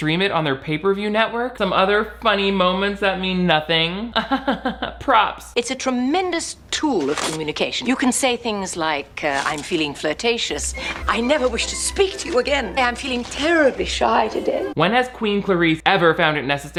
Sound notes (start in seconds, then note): 4.2 fake laughs; 10.4 lively music